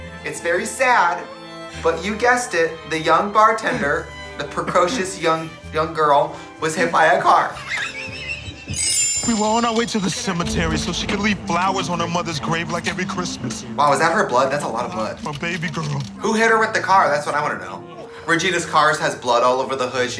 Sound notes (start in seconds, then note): 7.5 Katya laughing; 8.7 soft chiming